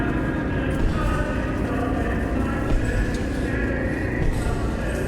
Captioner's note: pasos haciendo eco